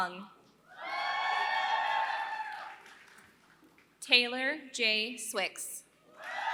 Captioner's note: applause; applause